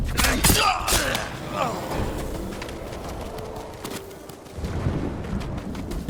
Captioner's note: grunting; thunder rumbling